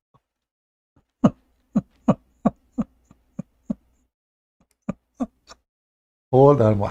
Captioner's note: Ketawa